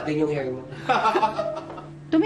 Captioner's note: laughs